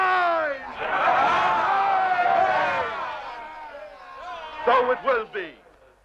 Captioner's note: chieftains cheering